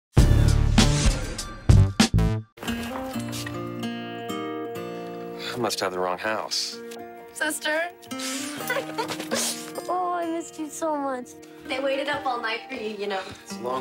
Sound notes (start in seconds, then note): 8.2 laughs